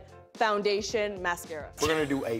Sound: laughs

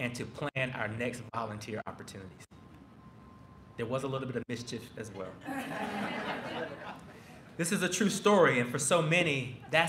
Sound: laughter

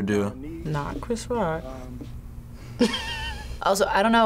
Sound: laughs

